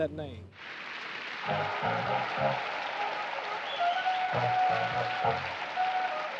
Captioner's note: audience applauding; upbeat music